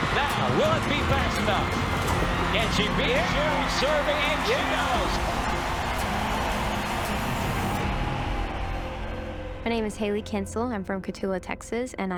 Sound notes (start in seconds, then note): 0.0 chuckles; 5.5 crowd cheering